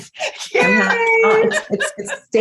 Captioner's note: laughter